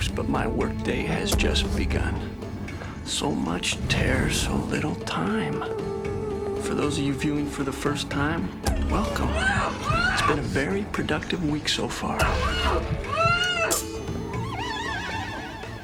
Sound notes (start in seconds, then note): 8.6 muffled screaming; 12.2 muffled screaming